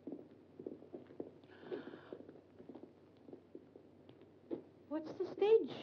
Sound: Glenda gasps

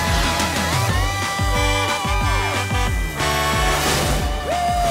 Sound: truck horn

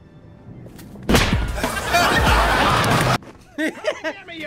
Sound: punching sound effect; audience laughter

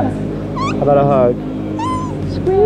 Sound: squeak

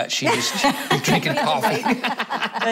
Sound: laughter

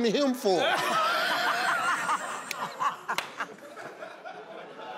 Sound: crowd laughing

